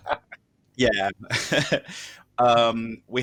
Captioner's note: laughter